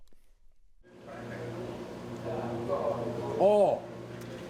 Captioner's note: machinery humming in background